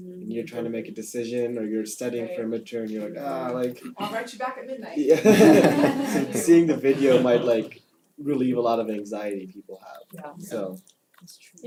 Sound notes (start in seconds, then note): 5.0 laugh